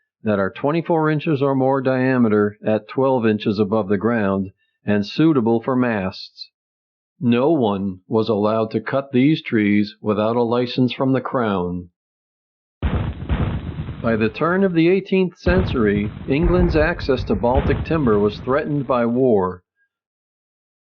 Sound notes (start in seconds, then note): 12.8 canon fire